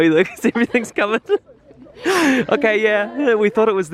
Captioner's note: laughs